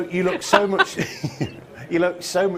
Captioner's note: laughs